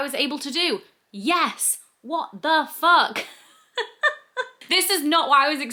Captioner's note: laughs